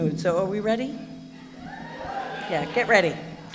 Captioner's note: cheering